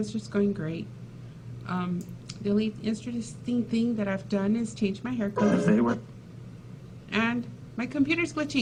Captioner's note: muffled computer noise